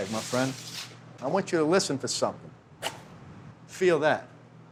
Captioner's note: quick chopping sound